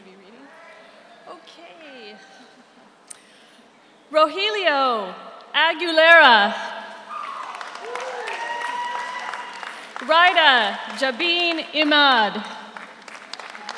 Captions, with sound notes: Am I gonna be reading? Okay. Rogelio Aguilera. (audience cheers) (audience applauds) Ridda Jabeen Ahmad.